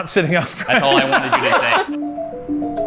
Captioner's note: all chuckle